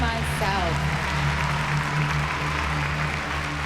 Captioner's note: cheering and applause